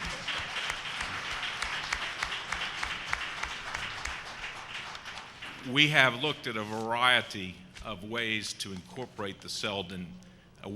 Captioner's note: applause